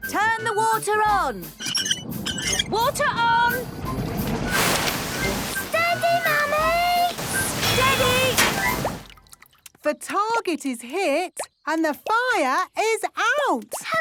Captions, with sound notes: - Turn the water on! - (wheel squeaking) - Water on! - Whooosh! - Steady, Mummy! - Steady! - The target is hit and the fire is out!